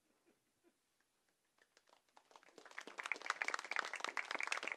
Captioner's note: applause